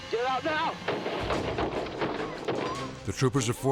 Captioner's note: gunfire banging